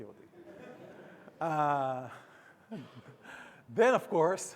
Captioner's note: audience laughing